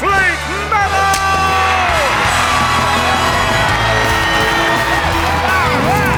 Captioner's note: cheering